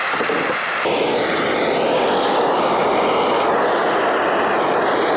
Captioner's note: blowtorch whooshing